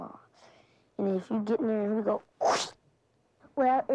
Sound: chomps

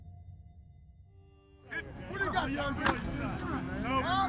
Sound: players shout; pads smack

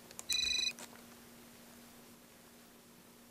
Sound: ringing

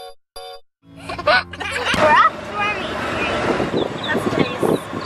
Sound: baby laughing

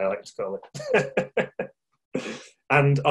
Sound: laughing

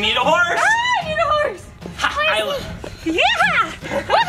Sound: shouts

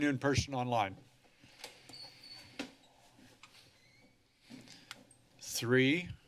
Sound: door closes; door opens

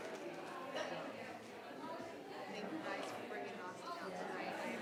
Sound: people chattering

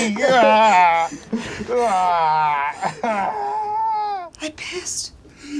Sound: crying

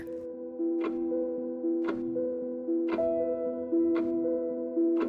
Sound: clock ticking

